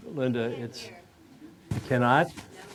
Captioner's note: voiceover